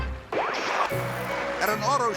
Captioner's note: TV interference chirps